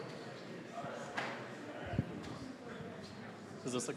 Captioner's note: general chatter